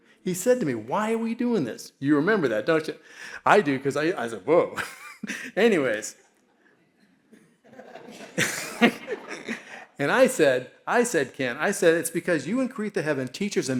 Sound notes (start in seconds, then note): 5.1 laughs; 7.6 all laughing